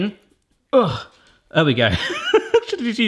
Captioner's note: groans; laughing